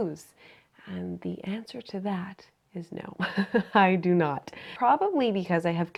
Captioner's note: chuckles